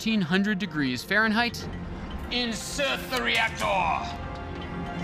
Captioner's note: imitating James Bond villain